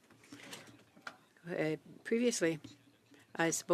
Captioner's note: speaking French